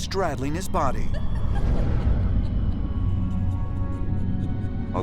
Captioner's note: sinister laughter